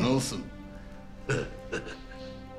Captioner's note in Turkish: Gülme sesi